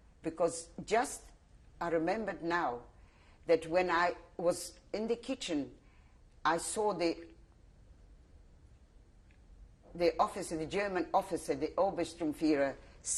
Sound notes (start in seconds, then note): 7.2 pauses for 3 seconds